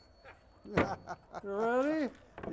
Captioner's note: audience member laughs; laughs